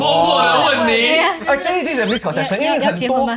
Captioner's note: whispers